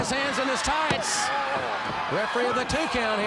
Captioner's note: countdown thudding